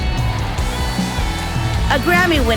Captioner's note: audience applauding